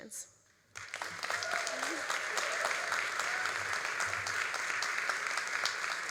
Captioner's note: all applauding and cheering